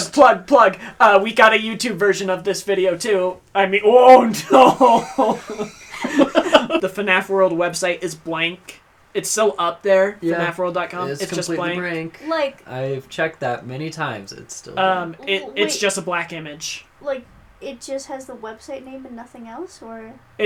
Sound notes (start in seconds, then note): 4.2 laughs